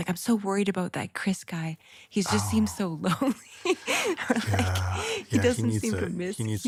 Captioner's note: laughs